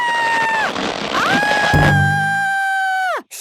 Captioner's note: screaming